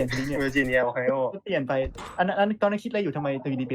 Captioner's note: laughs